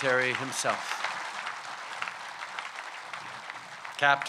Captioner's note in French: Applaudissements